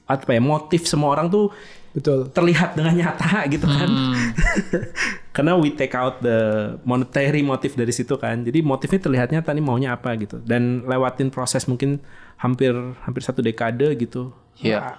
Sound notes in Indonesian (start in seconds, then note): 3.5 tertawa